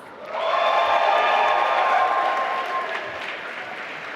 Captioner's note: applause